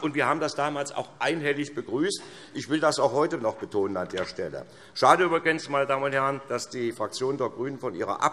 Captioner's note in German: none